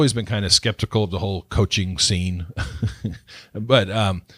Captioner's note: laughs